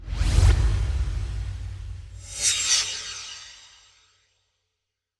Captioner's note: swoosh